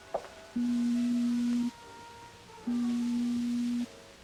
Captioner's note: beeping